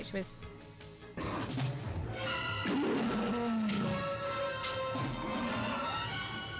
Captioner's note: growling